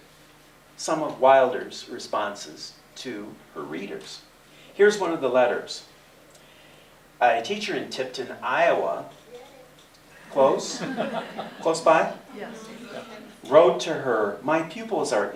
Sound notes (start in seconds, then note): 10.5 laughter